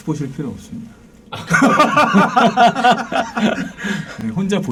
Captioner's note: laughing